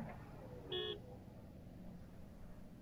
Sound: vehicle honking

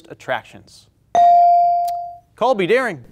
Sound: buzzer pings

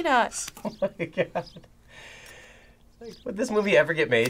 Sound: laughs

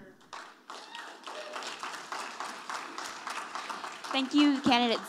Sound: audience applauding

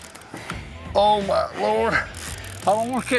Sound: reeling noises

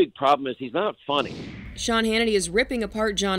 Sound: air whooshes

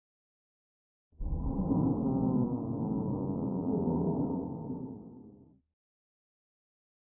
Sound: sound of groan

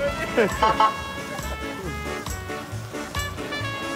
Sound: honks

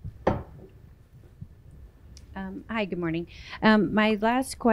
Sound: tumbler thuds

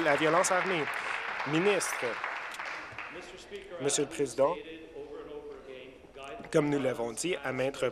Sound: applause

